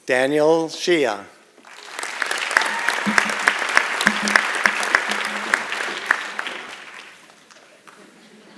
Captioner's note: applause